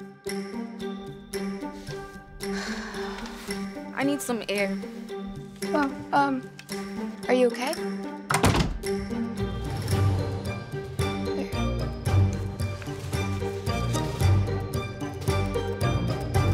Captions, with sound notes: (apprehensive music) - I need some air. - Oh, um... Are you okay? (door closes) (apprehensive music)